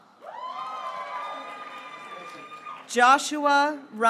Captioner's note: graduates cheering